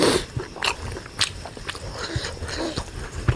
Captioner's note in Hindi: नाक से की जाने वाली आवाज़